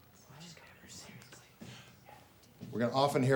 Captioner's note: students whispering